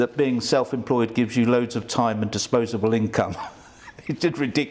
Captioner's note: laughs